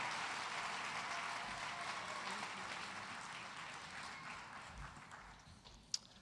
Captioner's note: cheers and applause